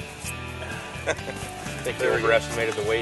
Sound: laughs

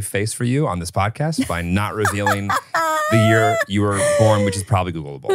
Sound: laughs

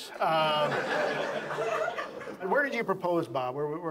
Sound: audience laughs

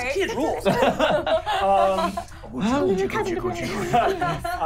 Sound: laughing

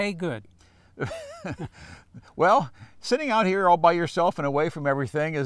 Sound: laughs

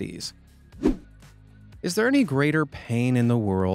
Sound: swoosh

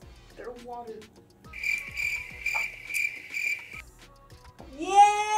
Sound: crickets chirping

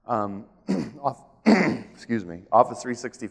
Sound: coughs

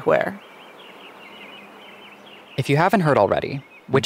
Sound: bird chirping

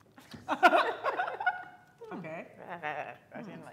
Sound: laughing

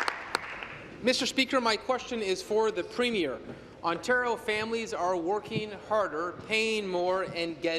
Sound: applause

